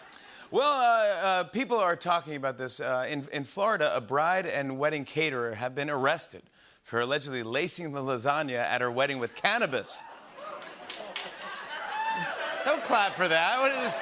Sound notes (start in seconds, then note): 0.0 laughter; 10.0 cheering and applause; 13.7 laughter